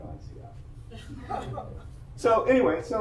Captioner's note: audience laughs